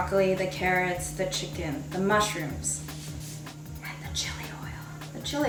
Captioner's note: whispers